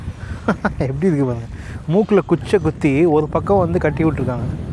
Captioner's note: laughter